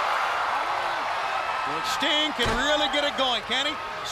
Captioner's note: crowd cheering